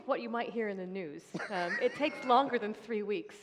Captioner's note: laughter